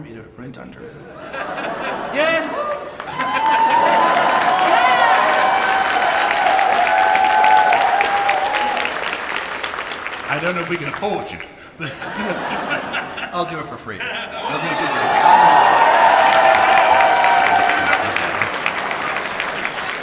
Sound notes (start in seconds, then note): 2.1 laughs; 2.5 audience applauds and cheers; 10.2 laughs; 12.5 audience laughs; 14.4 audience applauds and cheers